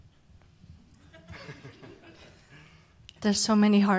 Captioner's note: panelists laugh